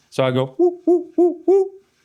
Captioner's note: imitates sound ball